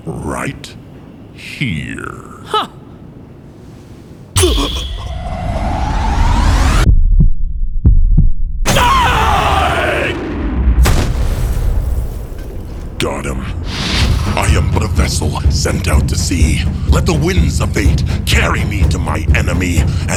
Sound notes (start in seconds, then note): 4.4 terrified gulp; 6.8 heart beating; 8.7 guard screams agonizingly; 11.0 body thuds